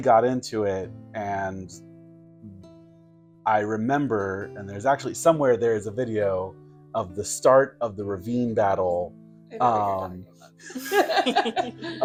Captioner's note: giggles